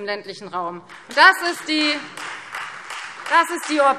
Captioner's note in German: Beifall Freie Demokraten